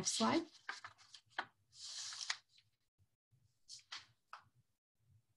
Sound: paper shuffling

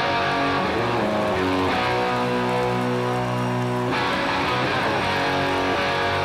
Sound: crowd cheering and applauding

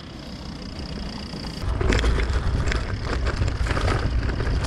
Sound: bike whirring

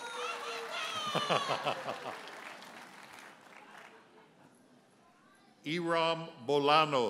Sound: audience cheers and applauds; audience member hollers; chuckles

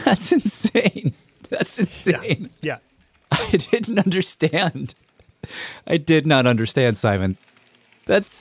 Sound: laughs

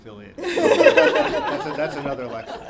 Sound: laughter

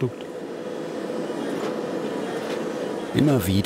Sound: machine whirring

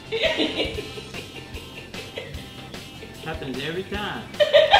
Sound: laughing

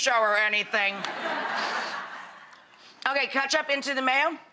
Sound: laughing

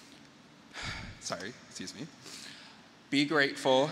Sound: breathes deeply

